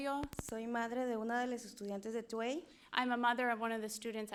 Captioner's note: speaking in foreign language